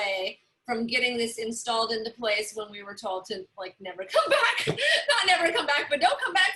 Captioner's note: laughter